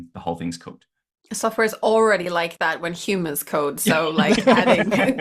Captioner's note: laughter